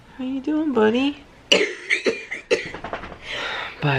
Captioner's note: coughing